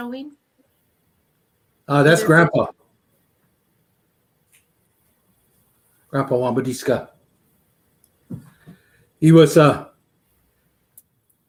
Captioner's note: speaking Dakota